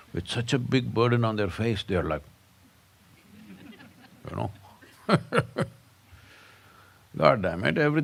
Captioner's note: laughs